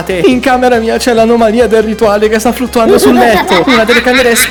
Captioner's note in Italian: risate